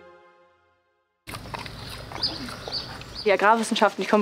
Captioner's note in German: Idyllisches Vogelzwitschern